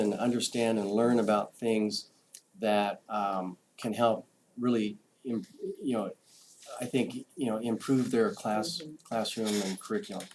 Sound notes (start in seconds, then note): none